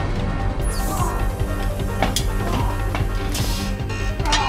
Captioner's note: Gordon grunting